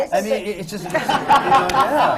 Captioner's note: laughter